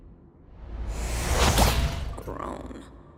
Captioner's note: whoosh; pop